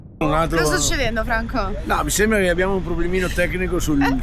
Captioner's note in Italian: schiarire la voce